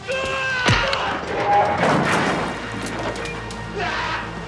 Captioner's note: furniture crashing